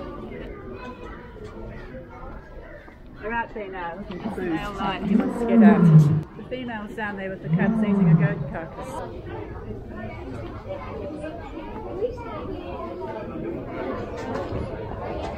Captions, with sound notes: "They are out there now. That's the male lion (roaring), he want's to get out". "the female's out there with the cubs eating a goat carcass".